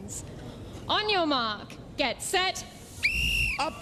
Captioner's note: whistle blows